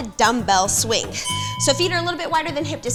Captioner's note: bell chimes